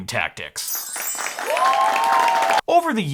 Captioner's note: people cheering and clapping